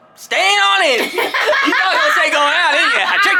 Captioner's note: laughing